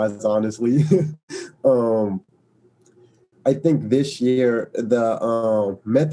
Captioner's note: laugh